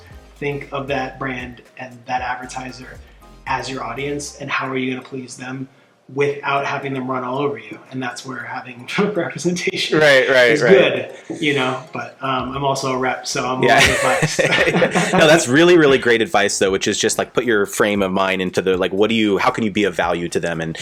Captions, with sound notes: Think of that brand and that advertiser as your audience, and how are you gonna please them without having them run all over you. And that's where we're having representation is good. (laughing) - But I'm also a rep so - Yeah. (both laughing) That's really really great advice, though, which is just like put your frame of mind into the, like what do you, how can you be a value to them